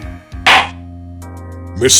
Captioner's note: gavel slams!